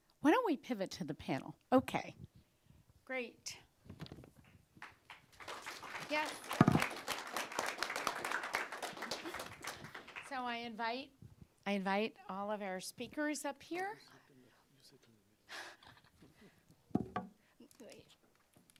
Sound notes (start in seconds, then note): 4.8 audience clapping; 6.3 applause; 14.1 indistinct conversation